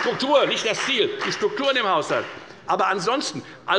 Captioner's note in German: Beifall bei der FDP